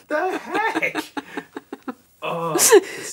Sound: laughing

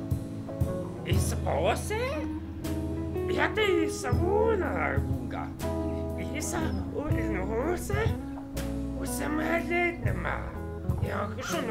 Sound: alien Language Sounds

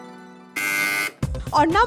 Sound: buzzer beeps

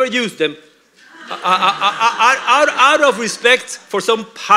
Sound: laughter

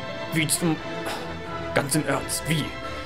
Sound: sighs

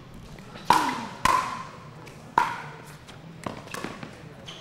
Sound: ball bouncing

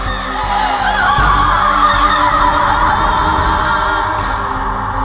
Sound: cries; resound of cry

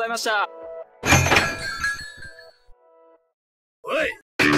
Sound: sound effect: Door opening and door chimes

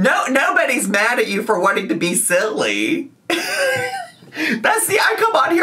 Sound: laughs

